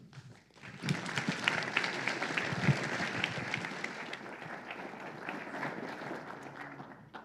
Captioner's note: applause